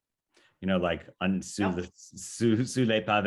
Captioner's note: speaking foreign language